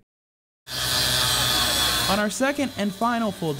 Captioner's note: sawing